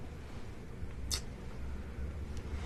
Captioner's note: clicks tongue